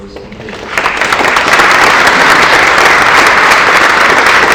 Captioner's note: applause